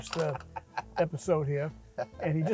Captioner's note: laughing